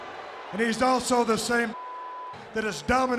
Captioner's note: beep